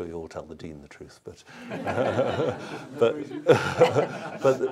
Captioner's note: laughter